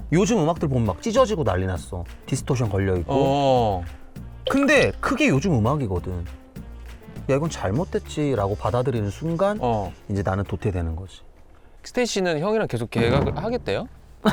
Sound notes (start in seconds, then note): 2.3 an effect that distorts the sound